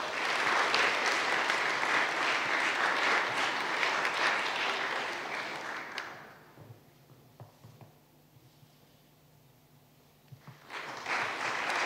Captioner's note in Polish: oklaski